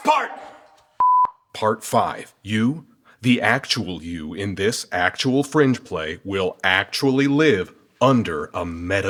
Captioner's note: beep